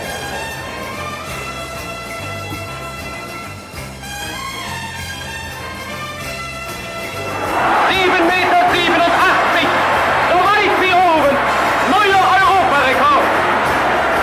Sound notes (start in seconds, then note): 7.5 crowd cheering; 8.7 man speaking in foreign language